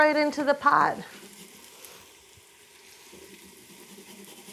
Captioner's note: grater grating